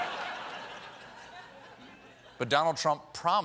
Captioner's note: laughter